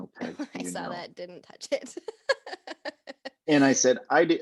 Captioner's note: laughing